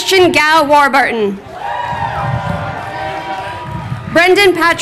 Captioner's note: crowd cheering